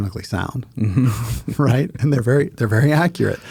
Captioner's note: both laughing